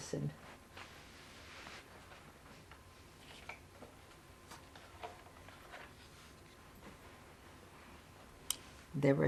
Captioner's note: pauses 8 seconds